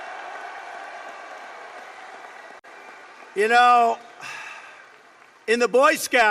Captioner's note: applause